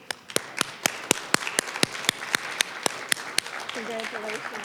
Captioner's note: applause